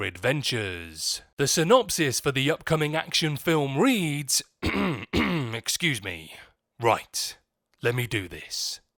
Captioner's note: clears throat